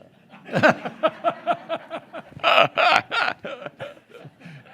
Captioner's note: group laughing